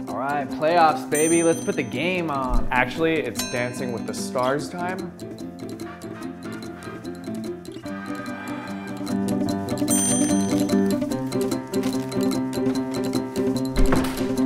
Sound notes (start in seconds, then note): 6.0 salsa music; 8.0 sighs